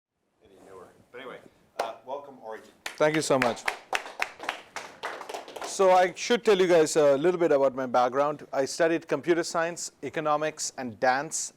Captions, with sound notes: Any newer. But anyway, welcome, Arijit. Thank you so much. [APPLAUSE] So I should tell you, guys, a little bit about my background. I studied computer science, economics, and dance